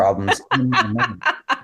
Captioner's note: laughing